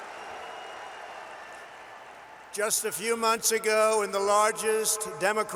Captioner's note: applause